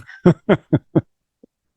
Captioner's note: laughter